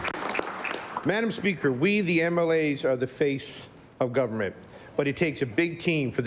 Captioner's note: applause